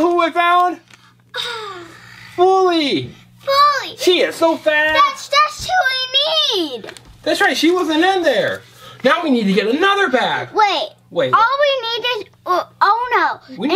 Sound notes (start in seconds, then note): 1.3 assistant gasps